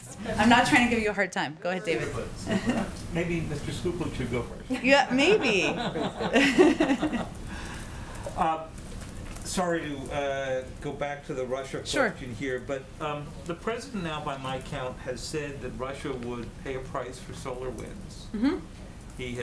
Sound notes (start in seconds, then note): 4.8 laughter; 8.4 laughs